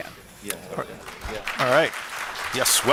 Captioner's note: applause